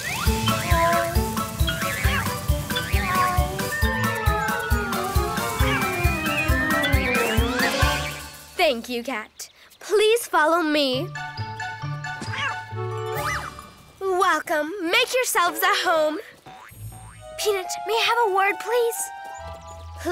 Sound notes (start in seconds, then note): 0.0 playful music; 0.3 cat meows; 12.5 cat meows